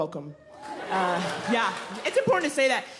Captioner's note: audience clapping